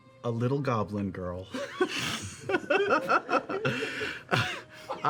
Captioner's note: laughter